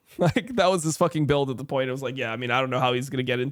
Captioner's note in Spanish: risas